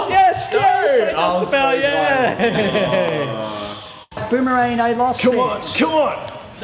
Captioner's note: groan